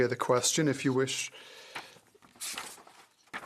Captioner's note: speaking French